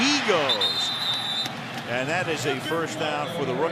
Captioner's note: whistle